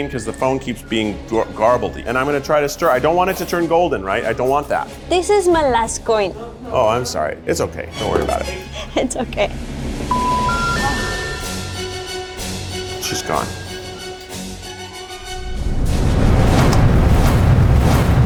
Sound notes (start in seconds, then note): 10.1 tones chiming; 14.1 dramatic music